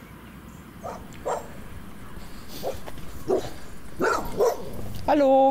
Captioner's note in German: Hund bellt